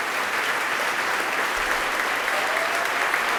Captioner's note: clapping